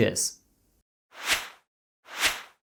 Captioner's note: logo whooshing